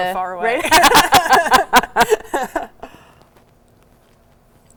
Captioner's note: both laugh